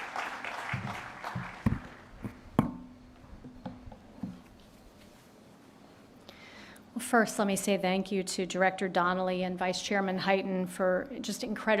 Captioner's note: applause